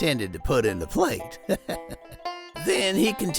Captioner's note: chuckles